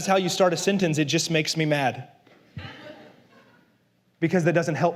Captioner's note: la congregación se ríe